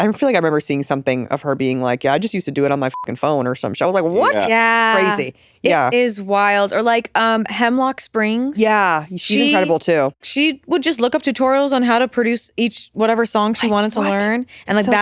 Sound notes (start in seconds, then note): 2.9 beep